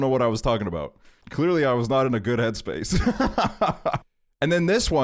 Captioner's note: laughs